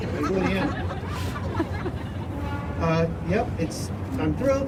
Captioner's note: crowd laughing